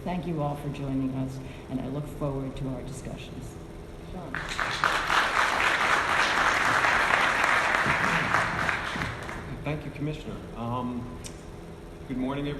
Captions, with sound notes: So thank you all for joining us and I look forward to our discussions. Sean. (audience clapping) - Thank you, Commissioner.